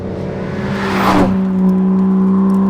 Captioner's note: car whooshing; car rumbling